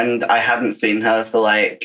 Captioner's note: laughs